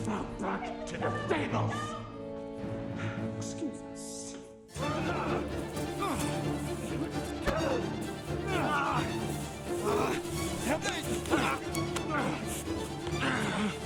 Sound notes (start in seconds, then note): 4.9 dramatic music; 7.5 groaning; 9.6 dramatic music